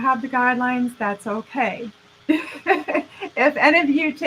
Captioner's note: laughing